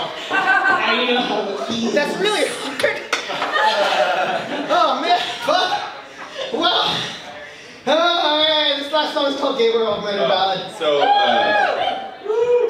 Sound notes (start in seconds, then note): 3.2 laughter; 10.9 cheers